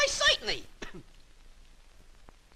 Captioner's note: clears throat